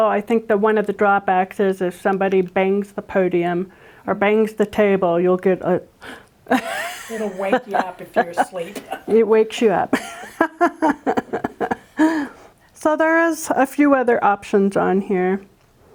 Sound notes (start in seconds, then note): 6.0 gasps; 6.5 laughing; 9.9 both laughing